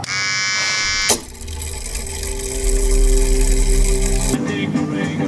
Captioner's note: hair clippers buzzing; mechanism whirring